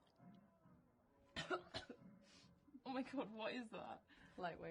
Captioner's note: Sophie coughing